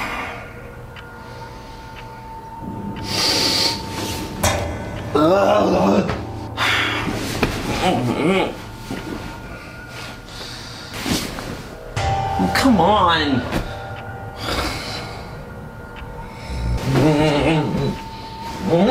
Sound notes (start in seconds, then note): 0.2 dramatic music; 2.7 sighs; 5.7 grunting; 6.8 sighs; 8.0 grunting; 14.4 sighs; 16.9 groaning